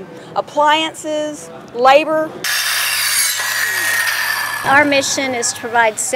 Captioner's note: drilling